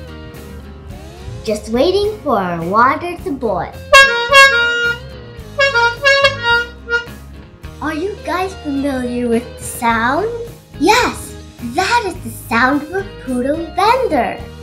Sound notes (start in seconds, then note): 3.9 honk